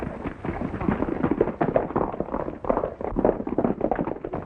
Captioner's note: horses galloping